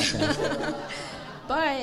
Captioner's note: audience laughing